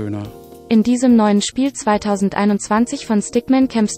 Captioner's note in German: Eine weibliche Computerstimme liest vor